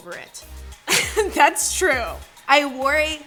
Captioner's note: laughing